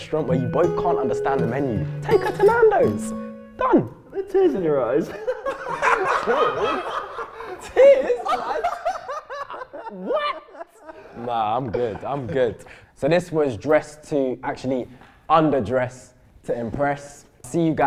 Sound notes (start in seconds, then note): 5.0 laughing